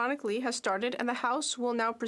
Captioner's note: speaking French